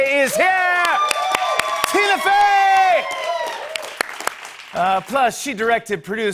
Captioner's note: cheers and applause